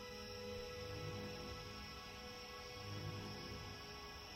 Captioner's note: crickets chirping